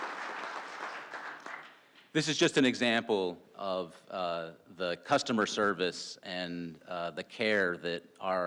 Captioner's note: applause